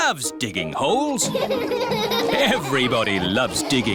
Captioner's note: all laughing